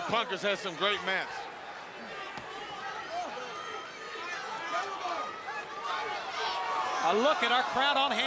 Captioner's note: crowd chatter